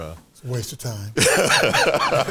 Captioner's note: laughs